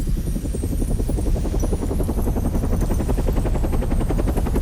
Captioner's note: helicopter whirring